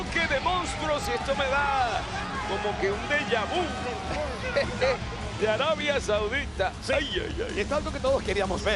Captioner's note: laugh